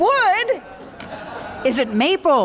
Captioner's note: laughter